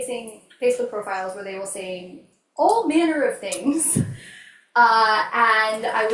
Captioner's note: laughs